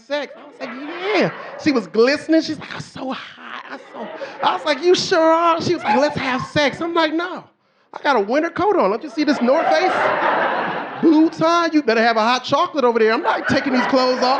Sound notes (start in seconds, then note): 11.5 audience laughing